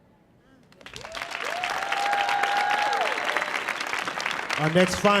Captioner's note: audience cheering